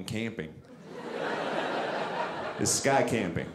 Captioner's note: audience laughing